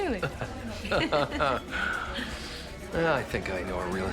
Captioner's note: laughing